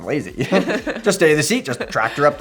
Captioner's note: both laughs